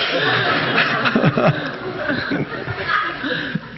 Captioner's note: audience laughing